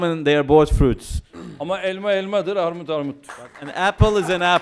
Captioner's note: non-english speech